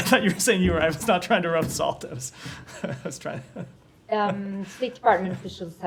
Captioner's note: laughter